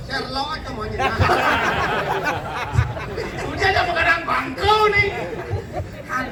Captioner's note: laughter